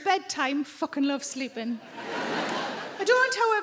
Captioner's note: audience laughing